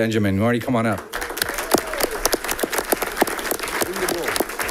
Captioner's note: audience clapping